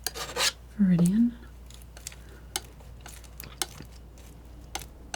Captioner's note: scratching